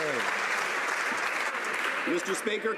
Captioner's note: some Applause